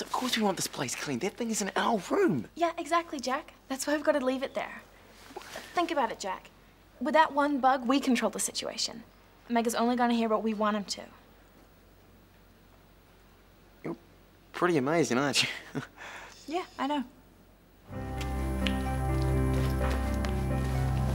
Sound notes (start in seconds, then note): 15.4 chuckles